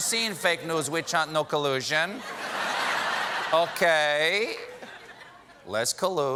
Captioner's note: laughter